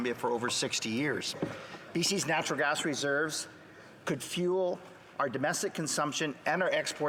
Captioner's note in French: voix de l'interprète